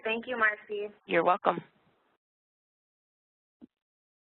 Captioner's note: voiceover